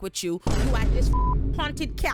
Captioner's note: beep